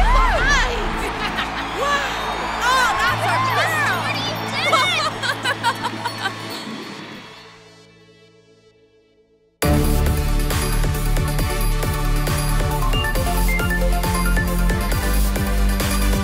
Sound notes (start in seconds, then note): 0.0 team cheers; 3.8 group cheers; 13.4 upbeat music